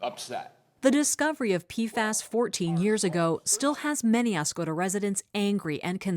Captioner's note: voice-over